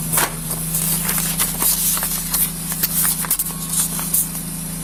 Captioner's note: papers shuffle